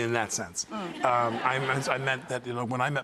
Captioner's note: audience laughs